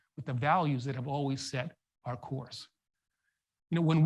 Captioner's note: none